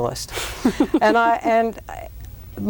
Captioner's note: laughs